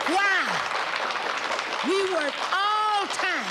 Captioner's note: audience cheers and applauds